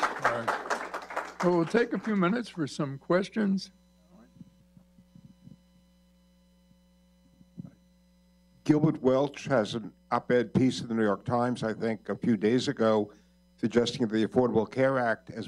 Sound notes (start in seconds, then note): 0.0 applause